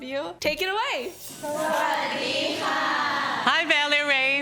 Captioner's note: happy thai noises